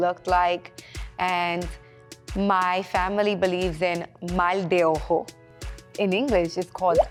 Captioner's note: speaking a foreign language